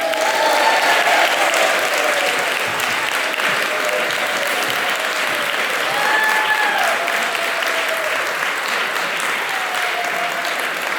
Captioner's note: applause